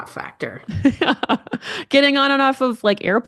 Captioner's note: laughing